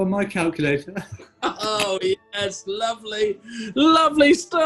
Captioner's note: laughs